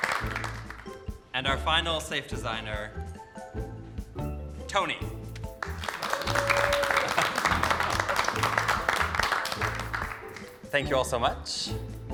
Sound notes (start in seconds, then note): 3.0 soft whimsical music continues; 5.6 group applauding